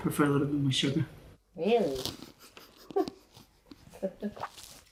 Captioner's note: cracking up